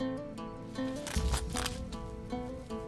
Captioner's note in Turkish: Halat kopma sesi